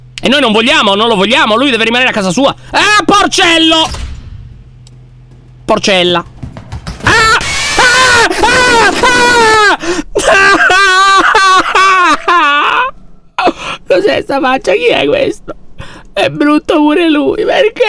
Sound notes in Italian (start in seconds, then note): 3.5 urla; 4.1 rumore di passi; 9.8 piagnucolando